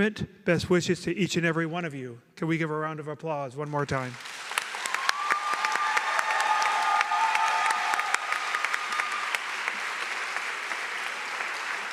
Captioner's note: applause